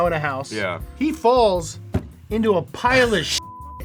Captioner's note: beep